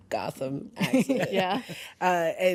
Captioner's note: laughs